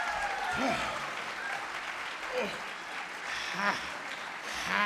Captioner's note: audience applauding; panting